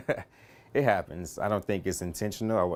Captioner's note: laughter